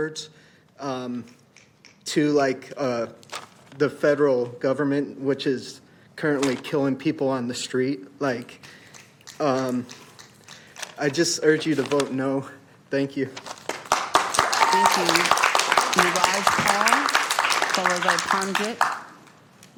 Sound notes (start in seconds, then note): 17.3 applause; 17.4 cheering/Applause